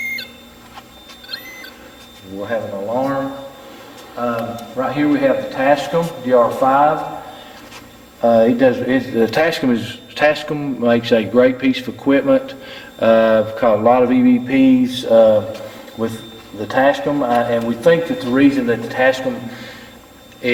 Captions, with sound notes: (meter buzzes) (meter buzzes) We'll have an alarm. Right here we have the Tascam DR5. The Tascam is a great piece of equipment. I've caught a lot of EVPs with the Tascam. And we think that the reason that the Tascam